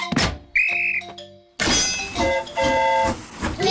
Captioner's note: blows whistle; train horn toots